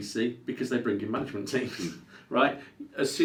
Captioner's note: laughs